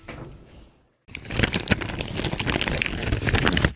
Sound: rustling of wrapping paper

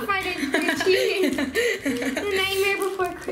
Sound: laughing

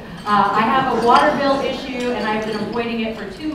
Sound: laughter

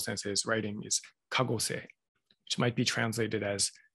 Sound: japanese

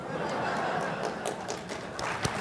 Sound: applause

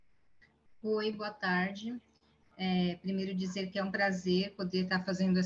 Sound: speaking in Portuguese

